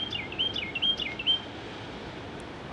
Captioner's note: bird chirping